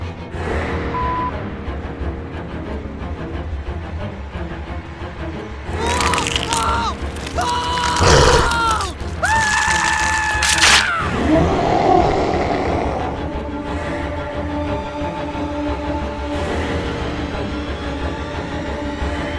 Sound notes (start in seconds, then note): 5.7 sounds of screaming flesh tearing and blood splattering; 11.1 booming Roar